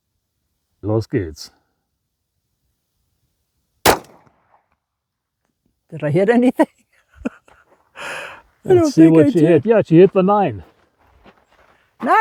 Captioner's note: laughs